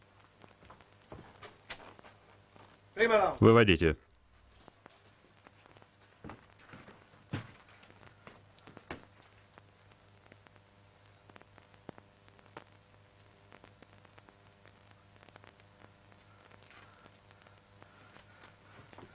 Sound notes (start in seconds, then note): 7.2 floor pattering